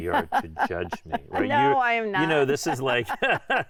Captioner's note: laughing